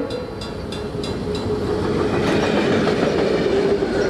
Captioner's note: train hoots; train whooshes